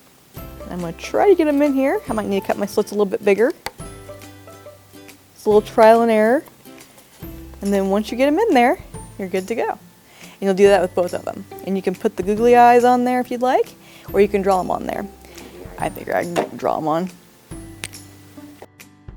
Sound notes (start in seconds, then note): 16.3 thud; 16.3 pop